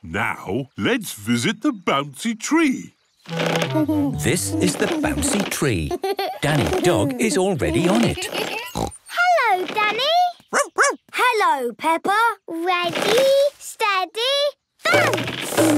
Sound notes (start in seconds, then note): 7.7 snorts; 10.5 barks